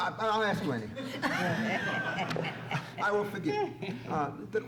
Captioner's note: laughs